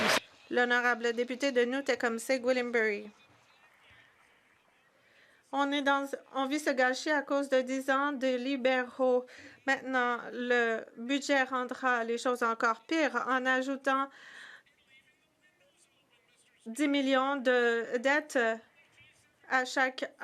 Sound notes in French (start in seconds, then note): 5.7 voix de l'interprète